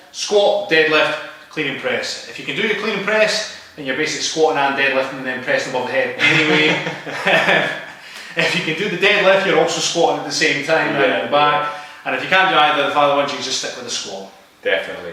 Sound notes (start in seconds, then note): 7.8 chuckles